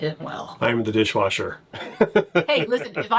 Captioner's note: laughs